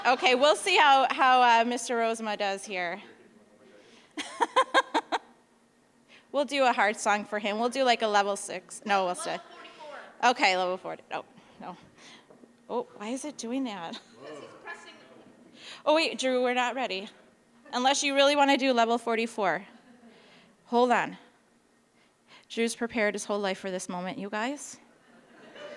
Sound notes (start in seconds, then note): 4.1 laughing